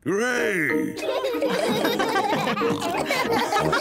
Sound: all laugh

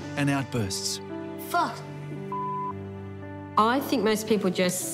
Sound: beep

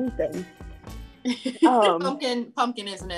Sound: laughs

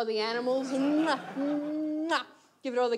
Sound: audience laughs

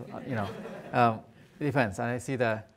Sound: audience laughing

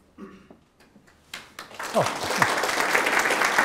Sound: applause

